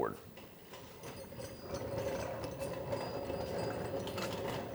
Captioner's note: wheels roll